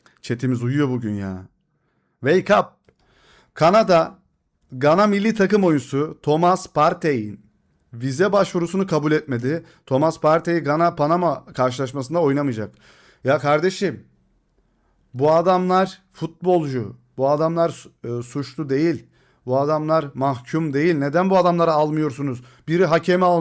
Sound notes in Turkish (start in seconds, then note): none